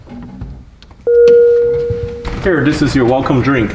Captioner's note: button dings